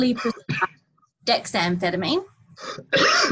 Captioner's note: coughs